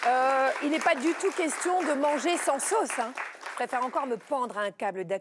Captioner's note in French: applaudissements